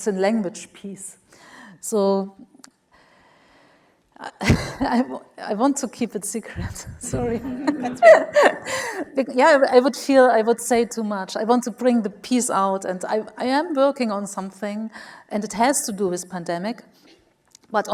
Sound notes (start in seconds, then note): 7.1 laughs